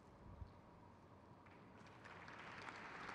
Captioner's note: crowd claps